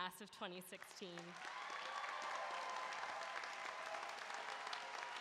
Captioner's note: applause